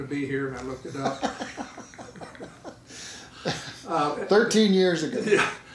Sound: laughing

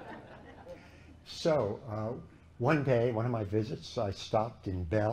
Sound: laughter

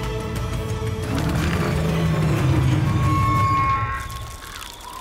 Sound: machine roaring

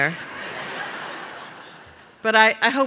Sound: laughter

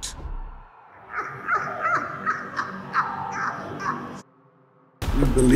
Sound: maniacal laughter

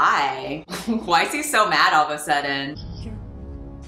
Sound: laughs

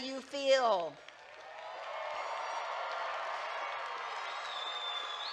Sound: graduates claps and cheer

